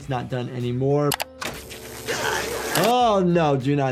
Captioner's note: electricity sizzling